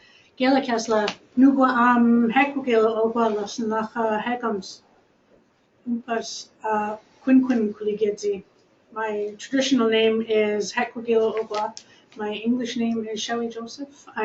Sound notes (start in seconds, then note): 0.0 speaking in a different language; 5.2 speaking in a different language